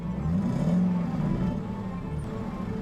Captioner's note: engine revs